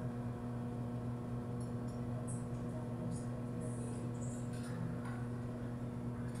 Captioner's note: ambient buzzing